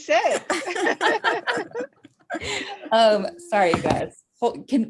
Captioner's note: all laughing